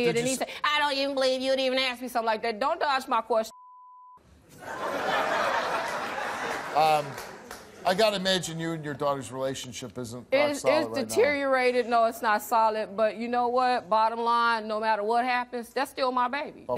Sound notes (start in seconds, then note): 3.5 beep; 4.5 laughing